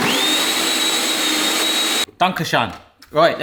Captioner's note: blender sound